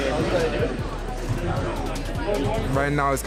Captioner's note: chattering